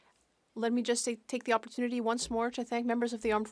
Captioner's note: speaking French